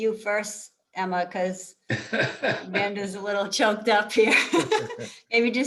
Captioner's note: giggles